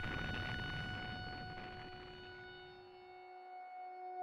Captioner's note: siren wails